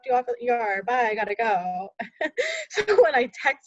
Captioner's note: laughs